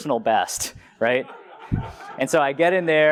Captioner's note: laugh